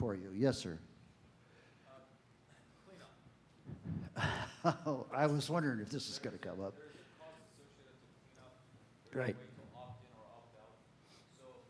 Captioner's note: laughter